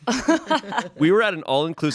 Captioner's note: everyone laughs